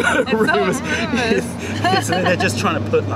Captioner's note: laughter